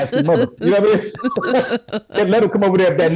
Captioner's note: everyone Laughs